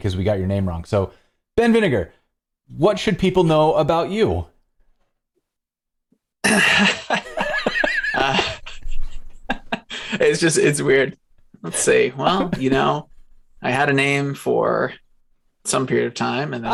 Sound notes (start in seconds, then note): 6.4 laughter